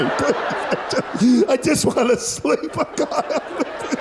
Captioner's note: gasp